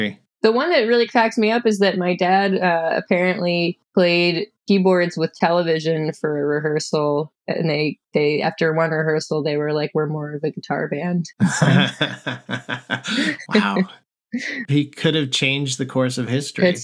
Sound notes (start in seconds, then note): 11.4 laughter